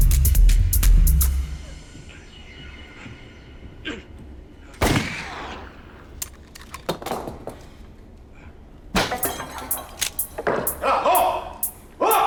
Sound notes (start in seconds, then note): 4.8 gunshot